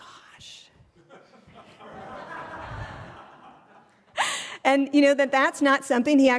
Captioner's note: laugh